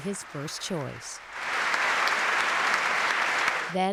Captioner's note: loud applause